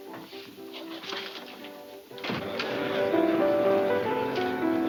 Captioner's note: crowd chattering